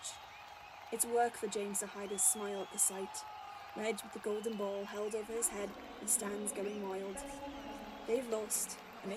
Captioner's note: cheering